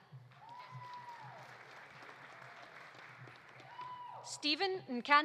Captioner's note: audience applauding; audience cheering